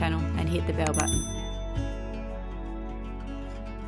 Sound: bell rings

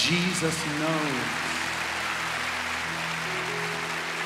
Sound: cheers and applause

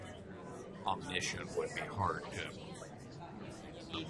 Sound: voiceover

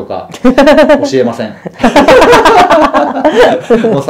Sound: laughs

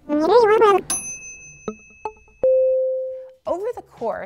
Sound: timers ding

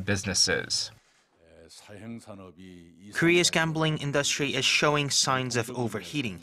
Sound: Korean

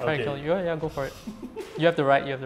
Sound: laughs

